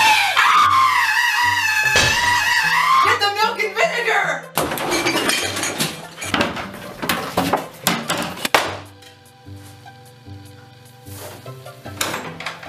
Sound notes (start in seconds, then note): 6.0 ominous thumps; 8.2 le slap